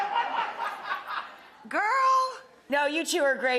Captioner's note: audience laughs